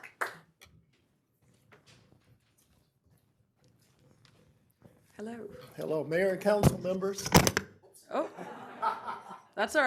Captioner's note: applause